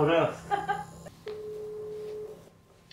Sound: phone calling

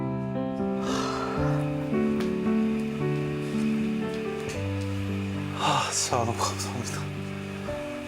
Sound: voiceover

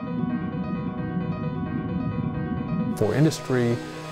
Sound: underwater bubbling

